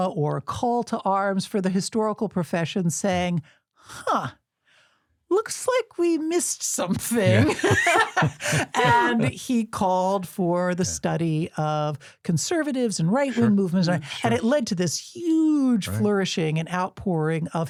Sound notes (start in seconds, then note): 7.1 all laughing